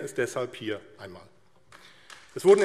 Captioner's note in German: Beifall AfD